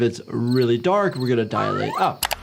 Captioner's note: crickets chirping; upbeat music; whistle trilling; mouse clicking